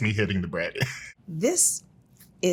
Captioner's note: participant chuckles